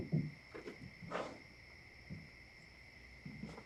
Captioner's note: sighs